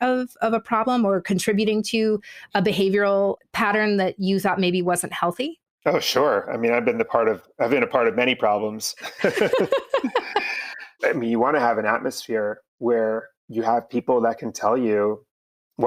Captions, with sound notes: of a problem or contributing to a behavioral pattern that you thought maybe wasn't helping? - Oh, sure. I mean, I've been a part of many problems. (both laughing) I mean you wanna have an atmosphere where you have people that can tell you